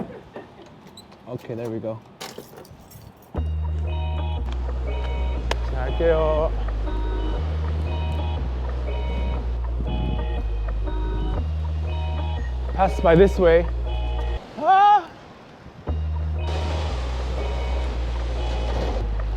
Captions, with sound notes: Okay, there we go. Wahhh (Speaking Korean) Coming through Pass by this way